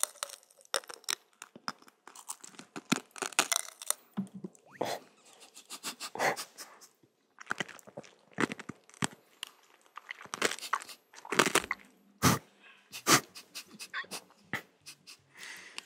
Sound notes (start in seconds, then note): 7.1 nom..nom; 12.9 laughing